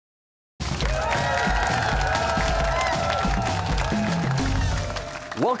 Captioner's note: cheers and applause